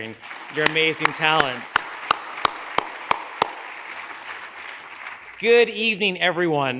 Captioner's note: audience applauds; hands clapping